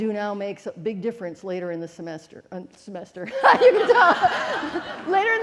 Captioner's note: laughing